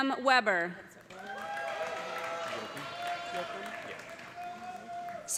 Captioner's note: cheers and applause